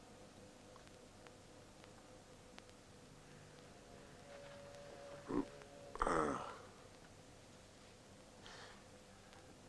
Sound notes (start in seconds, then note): 5.9 groans